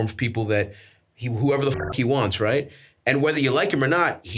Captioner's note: beeps